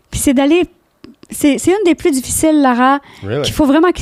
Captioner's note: in french